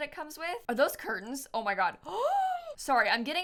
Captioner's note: gasps